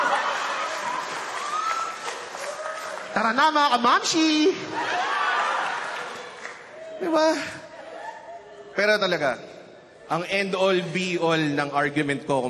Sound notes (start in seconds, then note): 0.0 laughter, applause; 5.0 laughter